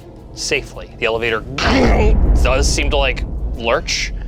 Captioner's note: imitates thud